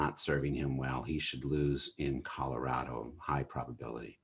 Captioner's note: chuckles